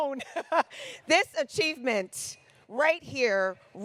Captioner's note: laughs